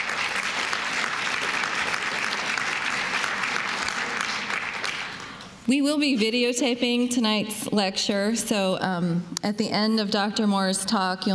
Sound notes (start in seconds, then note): 0.0 applause